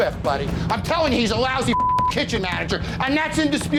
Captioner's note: beep